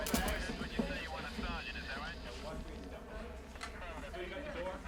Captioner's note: police radio chattering